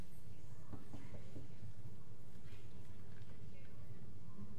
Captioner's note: knocks on door